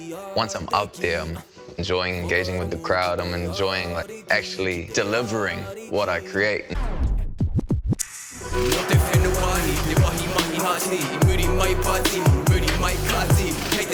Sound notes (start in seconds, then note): 6.7 record scratches